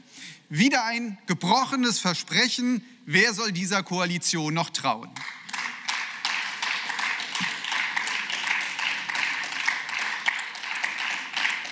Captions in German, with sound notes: Wieder ein gebrochenes Versprechen. Wer soll dieser Koalition noch trauen?(Beifall)